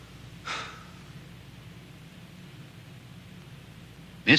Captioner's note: Casey sighs